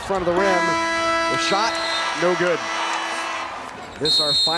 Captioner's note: horn blares